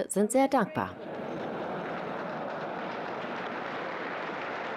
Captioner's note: audience laughing